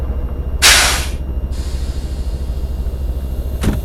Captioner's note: air hissing